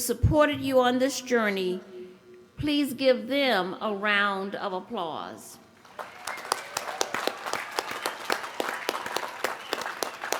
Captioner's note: applause